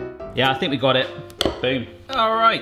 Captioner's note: hoppy piano melody; spoon hits bowl